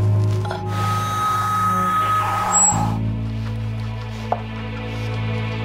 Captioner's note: electronic ringing